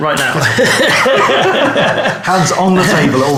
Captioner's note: laughing